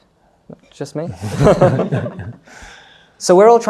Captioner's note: laughs